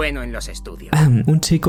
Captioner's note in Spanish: carraspeo